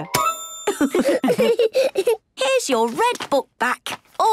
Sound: laughs

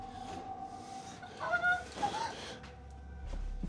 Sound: whimpering

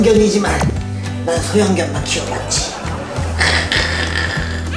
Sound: laugh

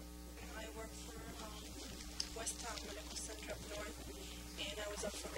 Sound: female voice

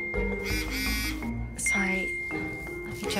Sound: phone beeping

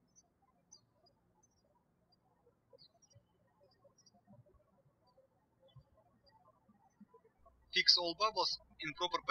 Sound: birds chirping

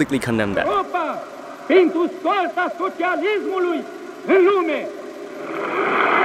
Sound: foreign language

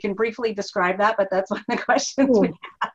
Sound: laughing

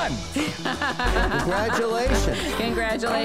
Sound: laughs

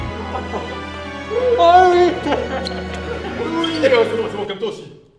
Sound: cries of joys

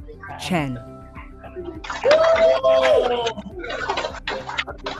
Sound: cheering

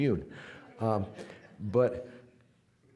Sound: audience laughing

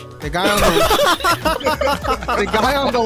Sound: group laughing

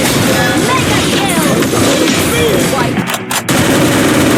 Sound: fighting sound effects

